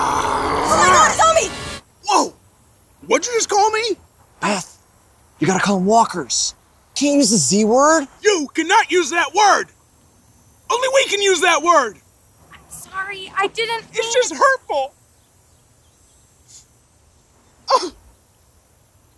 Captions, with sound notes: oh my god, zombie! -Woah, what'd you just call me? -Beth, you gotta call 'em walkers. You can't use the z word. You can not use that word! only we can use that word. - I'm sorry! I didn't mean - It's just hurtful! (sniffs & scoffs)